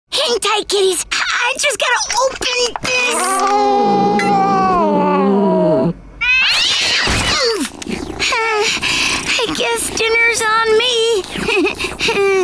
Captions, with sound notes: Hang tight kitties, I just gotta open this. [growling] I guess dinner's on me. [chuckles]